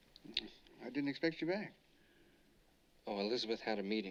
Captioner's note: clicks Tongue